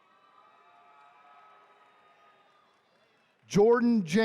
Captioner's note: attendees cheering